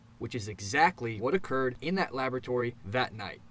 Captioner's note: none